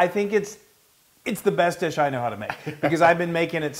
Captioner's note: laugh